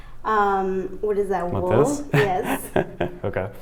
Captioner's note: chuckles